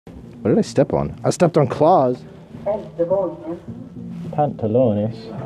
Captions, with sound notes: What did I step on? I stepped on claws? (Elevator voice in Swedish) "Pantalones."